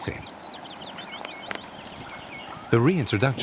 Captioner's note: birds singing